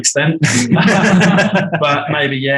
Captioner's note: group laughing